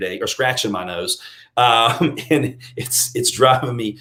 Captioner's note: laughing